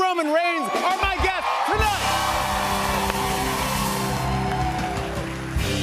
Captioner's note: cheers and applause; dramatic music plays